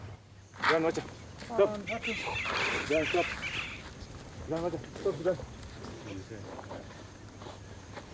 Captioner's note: chattering in foreign language